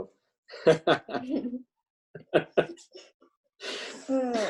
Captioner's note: laughs